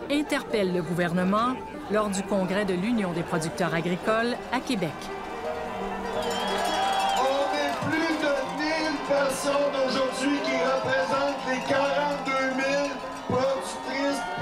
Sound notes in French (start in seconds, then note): 5.0 tintamarre